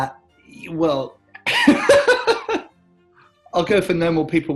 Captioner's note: laughs; laughing